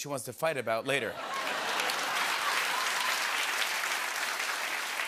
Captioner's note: applause